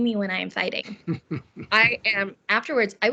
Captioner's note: laughing